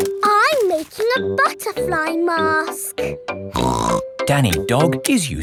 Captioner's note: snorts